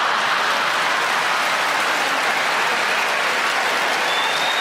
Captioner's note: audience laughing